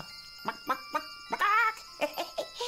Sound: chicken clucking; laughing

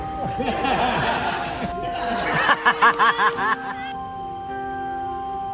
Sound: laughing

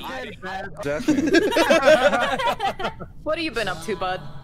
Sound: laughter

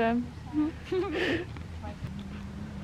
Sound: giggles

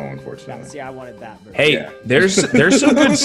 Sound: laugh

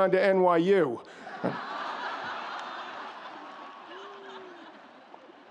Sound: audience laughs

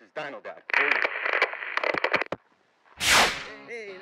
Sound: static sound

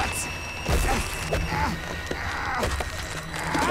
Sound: groaning

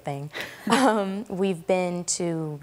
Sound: chuckling

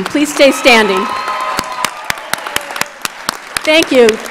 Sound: audience cheers and applauds

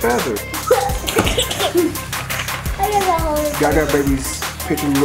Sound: laughs

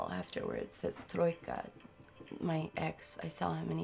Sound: speaking in a foreign language

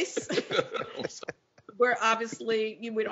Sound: laughs

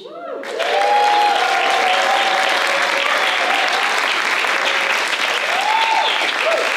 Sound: applause

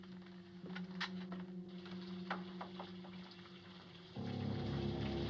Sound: water Running

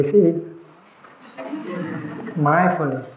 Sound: laughter

